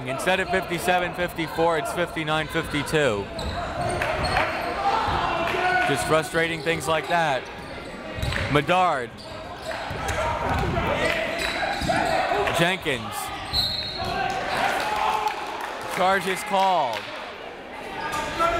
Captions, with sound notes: Instead of 57 - 54 it's 59 - 52. Just frustrating things like that. Medard Jenkins (whistle) Charge is called.